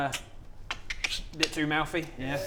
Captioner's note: click click